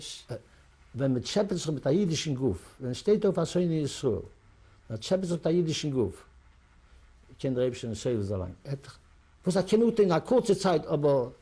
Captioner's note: yiddish; non-english